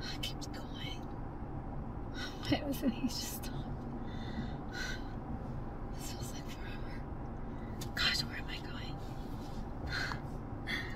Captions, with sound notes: Ah, it keeps going. (Janet speaks Spanish) This feels like forever. Gosh, where am I going?